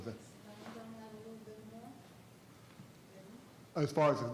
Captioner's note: faintly speaking